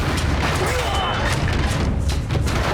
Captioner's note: grunting